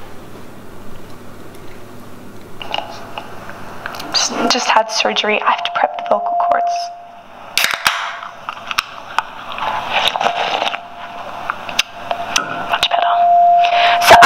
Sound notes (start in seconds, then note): 7.6 can cracks open; 10.1 loud slurping; 14.0 ear rape